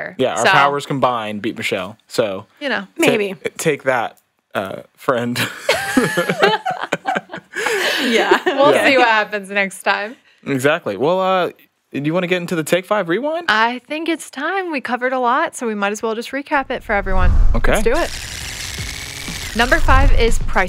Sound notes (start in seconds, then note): 5.3 group laughs